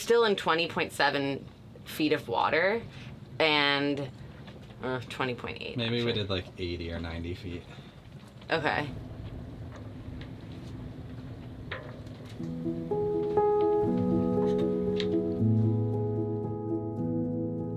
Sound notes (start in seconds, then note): 8.8 wind blowing; 12.3 soft music